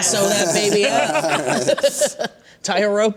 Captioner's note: laughter